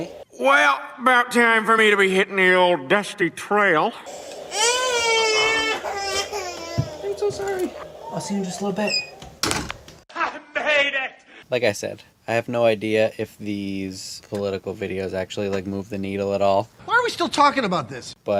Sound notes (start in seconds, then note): 4.2 more crying